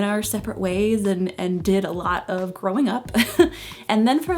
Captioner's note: chuckles